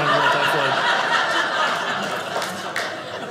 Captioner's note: audience laughing